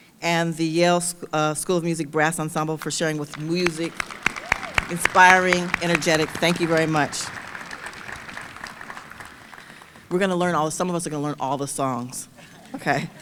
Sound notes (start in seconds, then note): 8.3 audience applauding; 12.3 audience chuckling